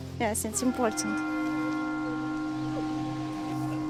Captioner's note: church bell tolls; woman cries